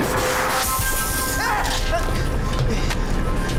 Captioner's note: screams